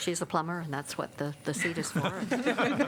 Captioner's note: laughter